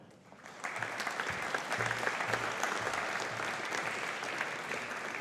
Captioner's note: audience applauding